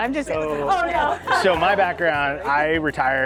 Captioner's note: laughs